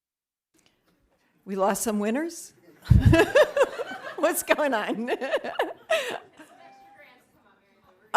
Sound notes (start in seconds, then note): 2.8 laughing